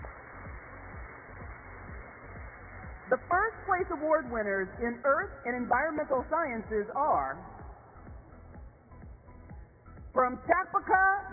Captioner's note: applause